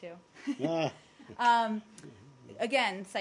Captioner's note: laughter